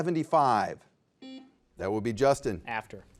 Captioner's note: buzzer beeps